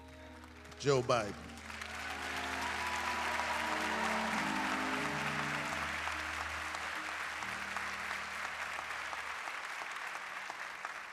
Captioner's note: applause